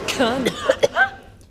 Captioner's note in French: Tousse